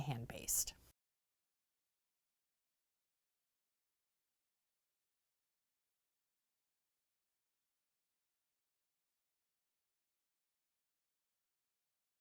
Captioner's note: no Sound Present